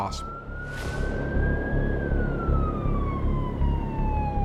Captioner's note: siren blares